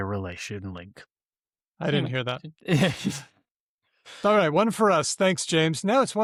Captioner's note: laughs